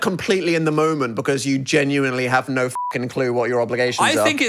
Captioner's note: beep